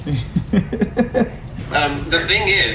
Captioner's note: laughs